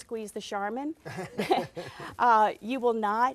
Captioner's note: laughing